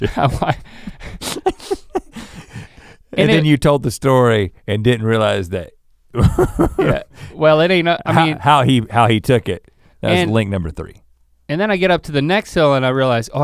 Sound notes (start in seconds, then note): 1.0 chuckling; 6.1 laughs